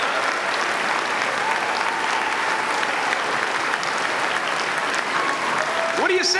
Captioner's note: applause